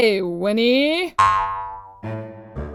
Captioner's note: boing!